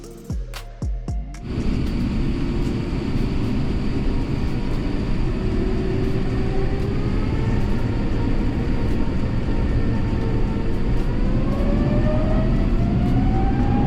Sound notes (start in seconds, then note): 1.4 engine spool up